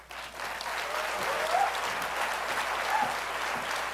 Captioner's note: applause